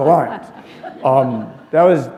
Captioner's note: laughter